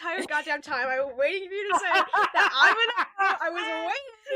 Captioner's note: laughs